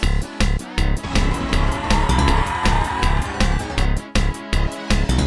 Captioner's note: upbeat Style Music; alien Roar; upbeat Style Music